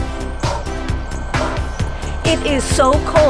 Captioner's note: puffing sounds